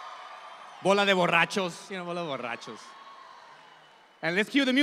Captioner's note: audience applauds; speaking in Spanish